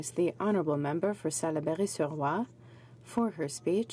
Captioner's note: speaking French